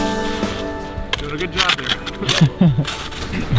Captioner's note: laughs